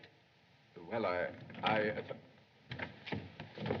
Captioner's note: door Opens